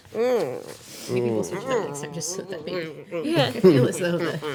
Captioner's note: groaning and mumbling